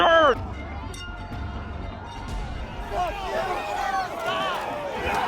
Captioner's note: crowd yelling